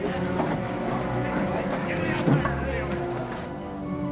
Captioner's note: men chattering